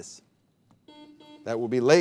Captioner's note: buzzer beeping